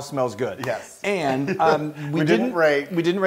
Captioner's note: laugh